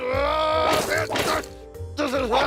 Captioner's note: angry grunting